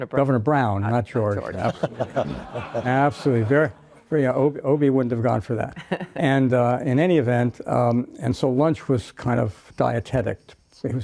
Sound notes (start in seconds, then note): 1.5 audience laughs